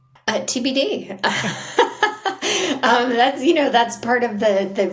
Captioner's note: laughing